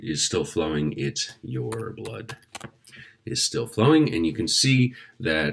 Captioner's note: typing